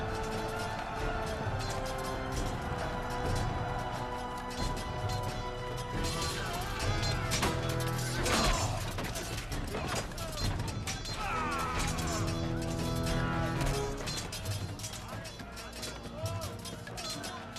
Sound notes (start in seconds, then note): 0.6 crowd cheering; 17.4 crowd cheering; 17.4 dramatic music